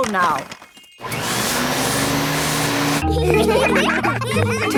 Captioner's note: whirring; all laughing